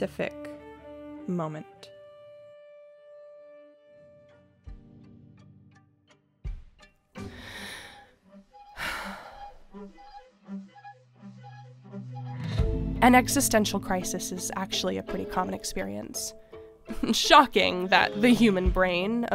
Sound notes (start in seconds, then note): 7.2 inhale, exhale